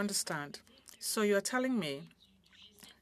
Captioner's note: speaking French